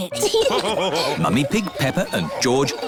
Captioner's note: laughter